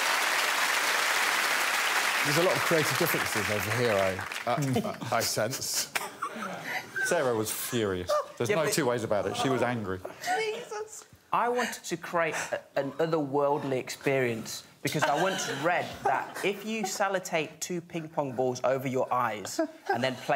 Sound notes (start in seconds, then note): 6.9 laughs